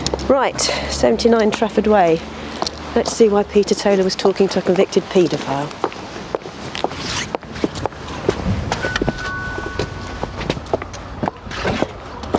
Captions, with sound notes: Right. 79 Trafford Way. Let's see why Peter Taylor was talking to a convicted pedophile. (footsteps clacking) (traffic whooshing) (bell dings)